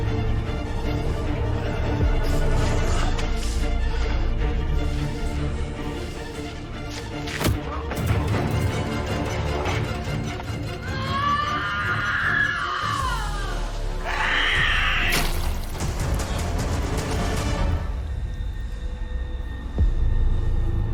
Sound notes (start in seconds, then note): 10.8 Elizabeth screams; 18.0 eerie music